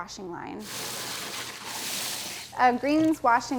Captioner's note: water splashing